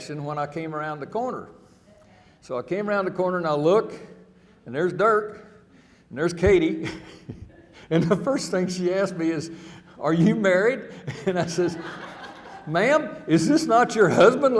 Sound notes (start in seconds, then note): 6.4 chuckling